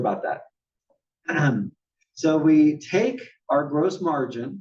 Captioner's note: cough